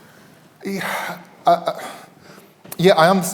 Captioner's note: sighs